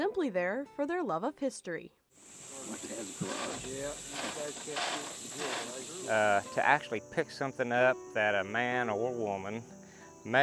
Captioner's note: sound of sorting